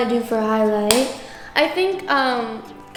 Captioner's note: compact snaps